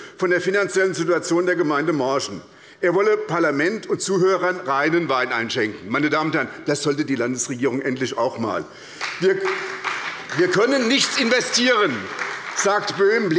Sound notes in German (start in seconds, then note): 8.8 Beifall bei der SPD